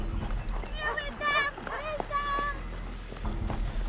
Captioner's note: dog barking